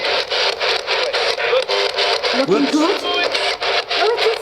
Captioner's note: ghostly voice crackling